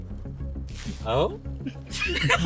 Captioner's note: water sound; laughter